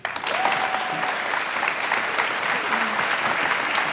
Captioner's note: applause